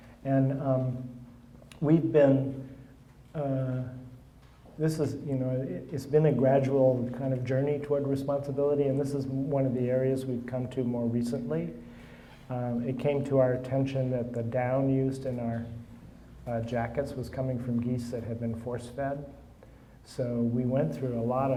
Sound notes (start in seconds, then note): none